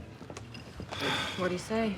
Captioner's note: sighs